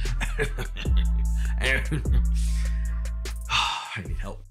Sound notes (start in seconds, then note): 3.4 sighs